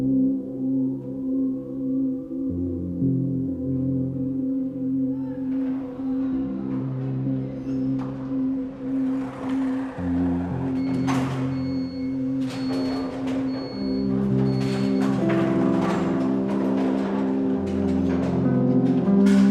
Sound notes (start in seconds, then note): 0.2 melancholic music; 6.6 bowlers faintly shouting; 10.2 bowling ball whooshing; 12.2 electronic beeping; 16.5 pins clattering